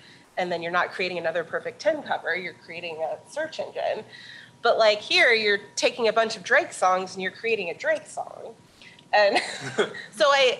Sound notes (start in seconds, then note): 9.3 chuckling